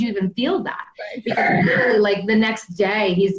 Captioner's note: laughter